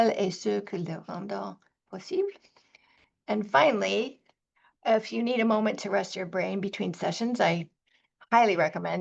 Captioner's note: speaking French